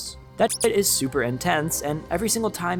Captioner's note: beep